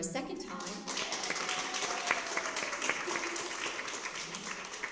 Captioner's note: cheering and applause